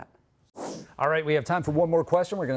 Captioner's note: whoosh sound